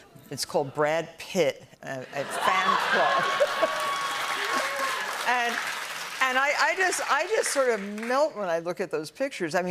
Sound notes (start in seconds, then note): 2.4 cheers and applause